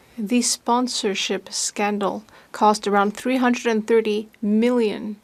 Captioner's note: speaking French